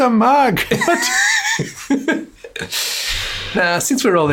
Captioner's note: both laugh